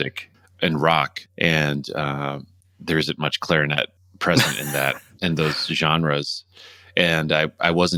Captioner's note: laughter